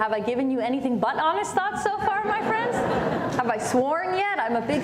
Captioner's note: laughter